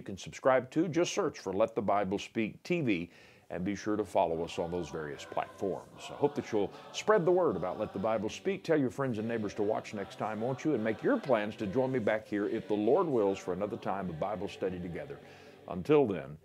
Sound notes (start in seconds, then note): 7.0 voiceover